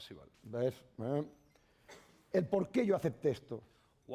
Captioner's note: speaking spanish